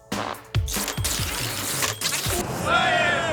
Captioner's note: typewriter typing